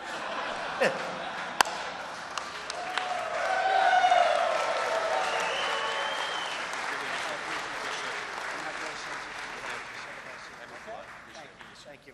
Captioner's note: laughter and applause